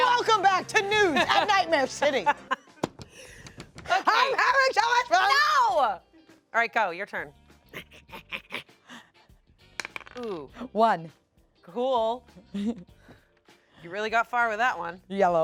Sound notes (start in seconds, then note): 9.5 pants